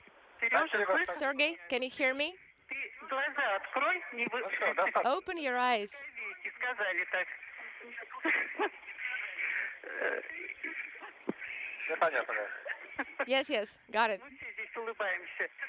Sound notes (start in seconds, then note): 0.0 foreign language; 11.3 foreign language; 13.2 laughing